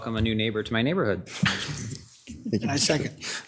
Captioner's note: members chuckle